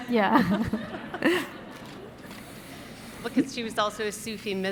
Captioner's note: audience laughing